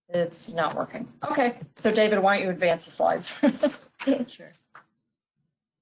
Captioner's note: chuckles